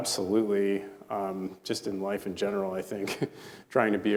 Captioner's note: chuckles